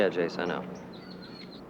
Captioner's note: bird singing